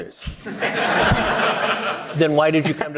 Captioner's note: audience laughing